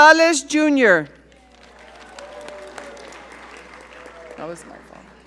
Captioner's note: audience cheering